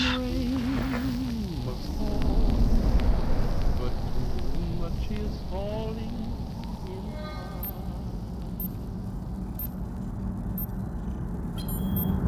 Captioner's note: static